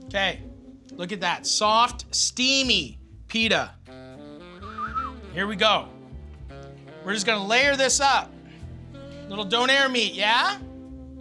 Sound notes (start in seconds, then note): 4.6 whistles